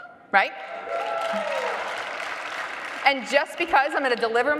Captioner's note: audience applauding loudly